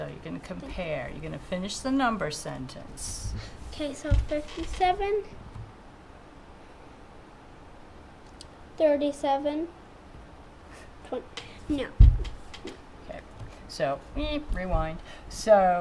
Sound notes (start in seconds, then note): 5.8 silence